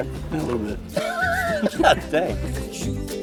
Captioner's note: laughing